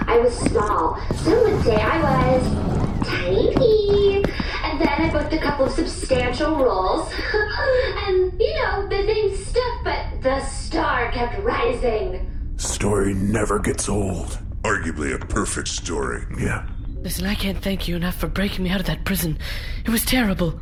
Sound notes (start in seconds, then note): 7.0 giggles